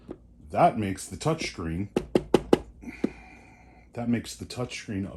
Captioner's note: angry tapping noises